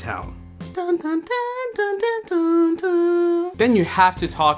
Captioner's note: humming